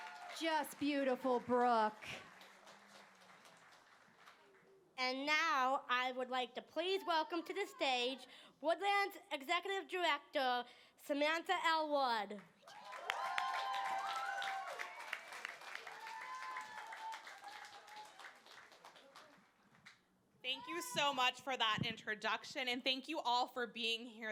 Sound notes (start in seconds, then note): 12.6 cheering